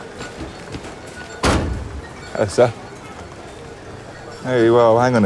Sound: bottle thuds

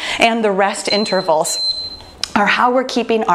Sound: timer beeping

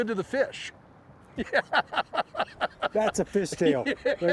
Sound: laughter

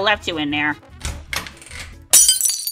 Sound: door opens

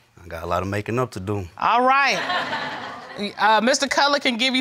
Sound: audience laughing

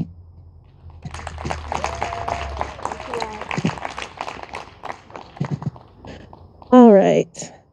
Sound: audience applauding and cheering

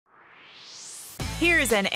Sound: swoosh

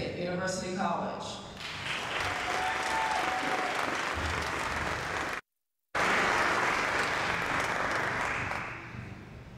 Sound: applause

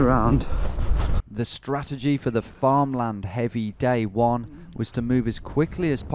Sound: voiceover

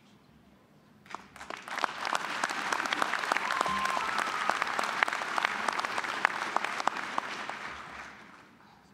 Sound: applause

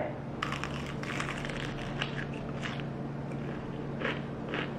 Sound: food crunching

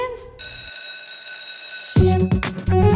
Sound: school bell rings

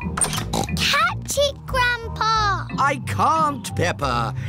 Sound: snorts

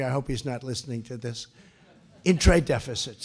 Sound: laughter

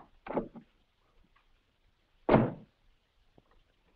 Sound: door bangs shut

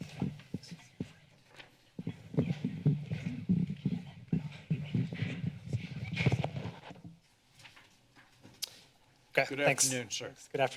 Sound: rustling; chatter

